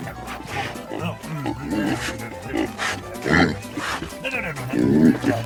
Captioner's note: oinks